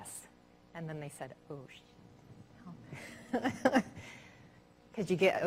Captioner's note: laughing